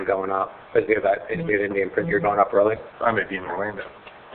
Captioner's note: speaks quickly